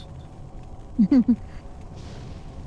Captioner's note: laughs